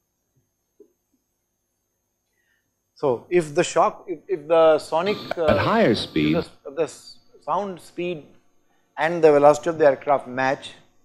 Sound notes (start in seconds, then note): 5.0 shock